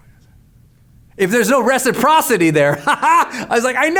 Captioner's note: laughs